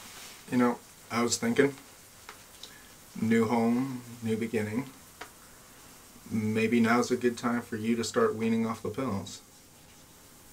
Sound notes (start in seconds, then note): none